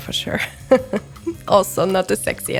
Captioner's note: laughs